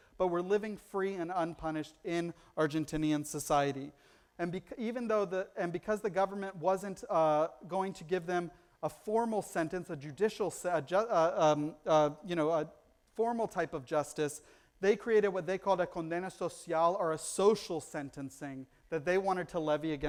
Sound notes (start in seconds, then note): 15.9 foreign language